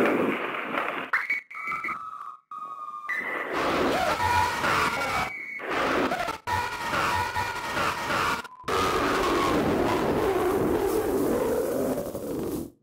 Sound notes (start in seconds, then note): 2.6 distorted screaming